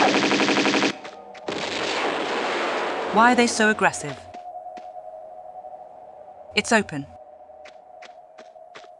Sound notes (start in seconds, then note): 1.6 boom